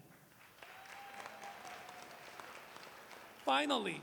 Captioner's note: applause